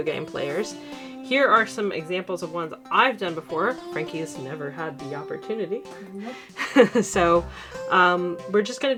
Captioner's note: laughs